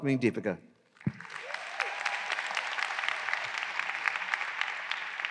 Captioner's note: audience applauding